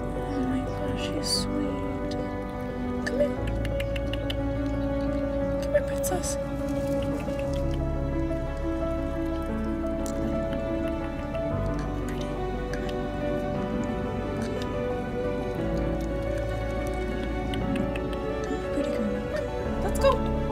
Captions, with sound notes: Oh my gosh, she's sweet. Come here. [Tongue clicks] Come here Princess. [Tongue clicks] [Slurping] Come on pretty. Good. Come on. [Tongue clicks] Good pretty girl. Come one, let's go.